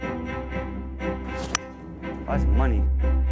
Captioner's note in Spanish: golpecitos de palo de golf